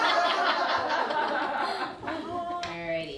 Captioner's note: laughter